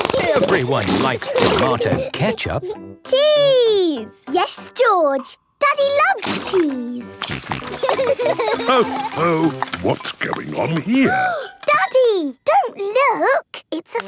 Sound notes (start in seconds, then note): 7.0 snorting; 7.7 laughter